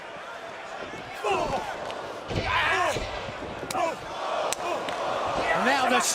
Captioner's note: crowd chatter